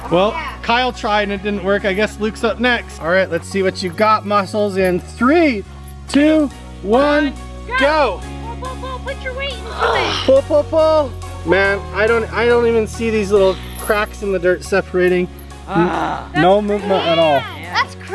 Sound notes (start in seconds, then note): 5.3 in Unison; 9.6 grunting